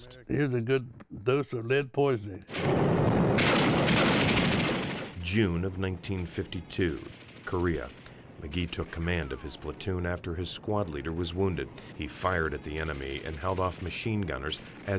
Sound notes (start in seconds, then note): 2.4 bombs booming; 2.5 guns banging